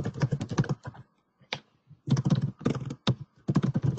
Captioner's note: keyboard tapping